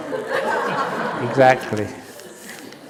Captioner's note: laughter